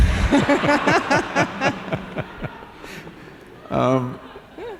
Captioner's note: laughter